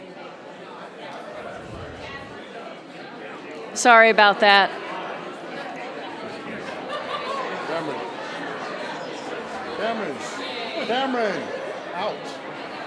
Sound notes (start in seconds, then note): 1.9 audience murmuring